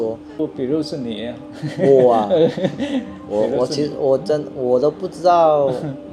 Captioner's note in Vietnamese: Tiếng cười